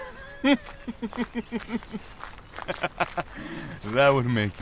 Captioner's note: amused chuckle